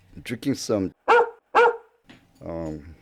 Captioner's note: dog bark